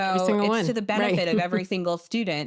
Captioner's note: chuckles